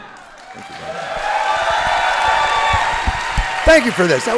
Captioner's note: audience applauding and cheering